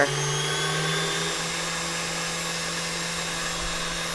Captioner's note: mixer whirs